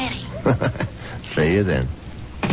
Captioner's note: laughter